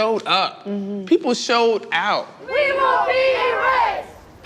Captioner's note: chanting